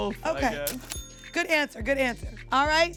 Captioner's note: cash register rings